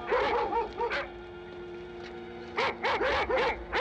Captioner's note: dog barking